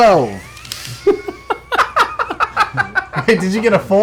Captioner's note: laughter